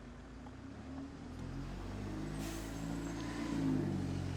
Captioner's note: cars drive past